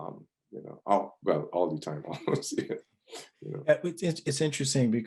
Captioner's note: laughs